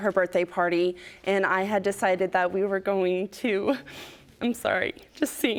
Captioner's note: voice breaking